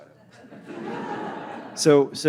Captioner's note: audience laughing